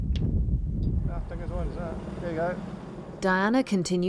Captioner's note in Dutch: man mompelt